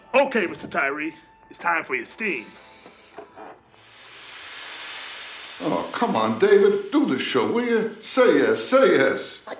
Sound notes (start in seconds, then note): 4.3 hissing